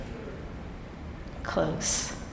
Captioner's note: audience answer at low volume